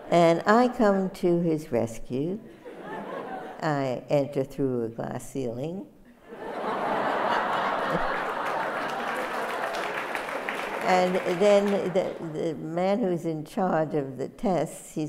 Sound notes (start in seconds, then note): 6.2 laughter; 7.2 audience applauds